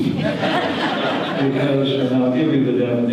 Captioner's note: audience laughter